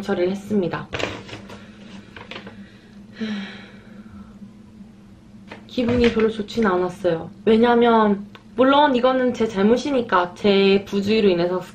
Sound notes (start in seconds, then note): 3.1 sigh